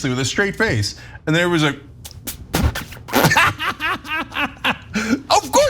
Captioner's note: laugh